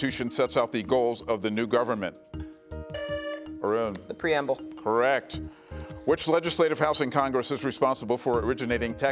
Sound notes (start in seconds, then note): 4.3 buzzer sounding